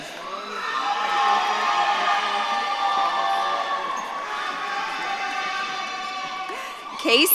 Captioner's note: audience claps and cheers